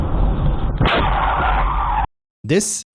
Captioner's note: car Crash Sound